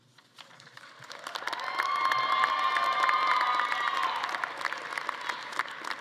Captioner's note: everyone applauding; attendees cheering